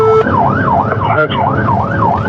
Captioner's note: wararnining s sirirens